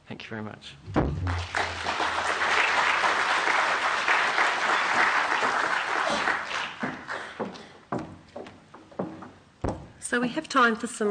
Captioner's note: applause